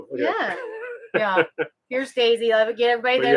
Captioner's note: laughing